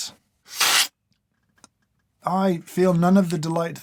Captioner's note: slurp